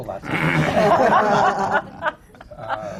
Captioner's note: laughter